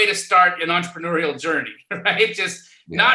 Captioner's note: laughs